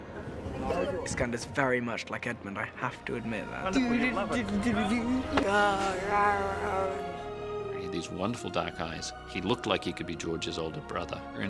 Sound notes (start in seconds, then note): 4.3 humming; 5.3 roaring